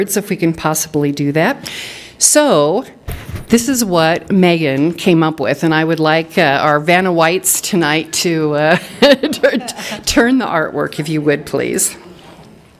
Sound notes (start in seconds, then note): 8.8 laughing